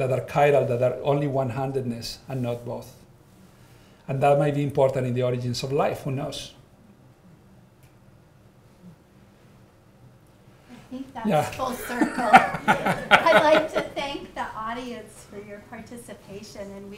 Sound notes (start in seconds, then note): 11.6 all laughing